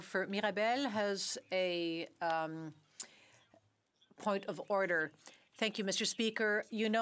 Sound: speaking French

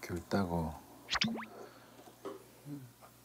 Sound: slurp

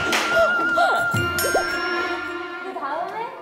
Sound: is screaming after touching the raw chicken

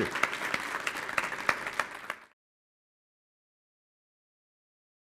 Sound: audience applauding

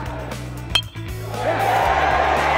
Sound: baseball bat clinking; crowd cheering

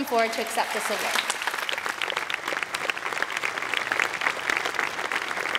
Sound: applause

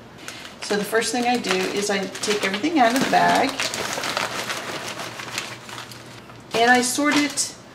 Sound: loud shaking of the plastic bag

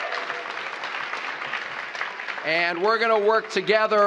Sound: applause

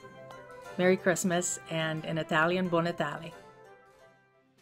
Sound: foreign language

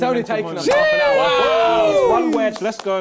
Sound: crowd cheering

